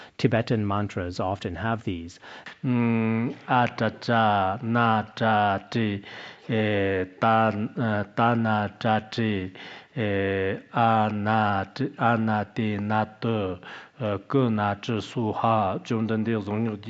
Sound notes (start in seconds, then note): 2.4 giving oral transmission in Tibetan